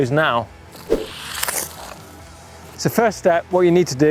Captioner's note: stick scratches